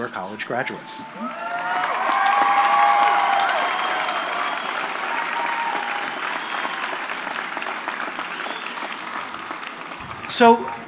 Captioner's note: applause and cheers